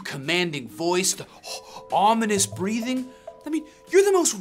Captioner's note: breathes out